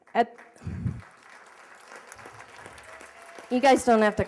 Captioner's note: applause